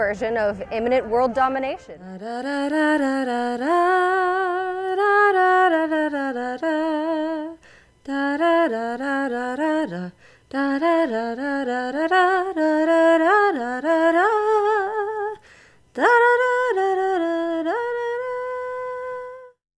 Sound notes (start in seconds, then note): 1.8 humming